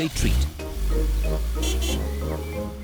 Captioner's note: horn honks